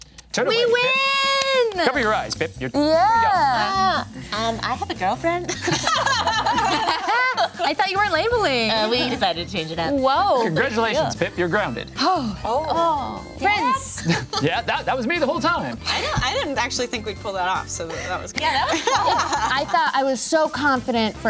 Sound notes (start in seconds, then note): 0.0 imitating kissing; 5.5 group laughing